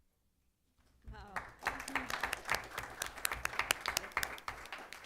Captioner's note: applause